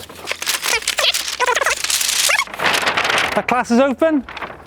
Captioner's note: sped-up talking sounds